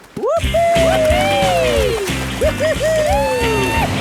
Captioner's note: both whooping